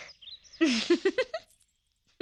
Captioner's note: chuckling